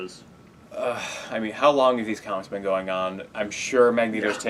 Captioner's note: groan